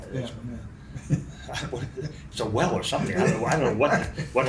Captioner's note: both laugh